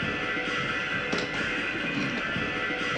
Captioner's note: none